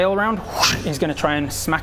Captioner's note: whsht!